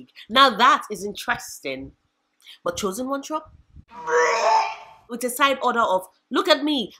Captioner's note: vomit